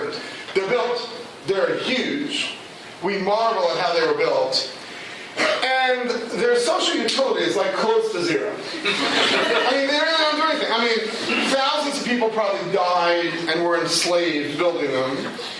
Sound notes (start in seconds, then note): 8.7 laughter